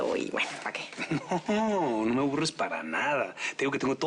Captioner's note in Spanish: Ríe